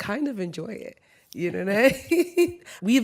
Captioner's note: laughs